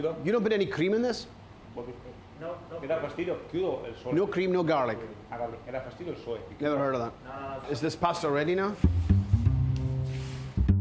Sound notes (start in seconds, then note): 2.8 speaking Italian; 5.6 speaking Italian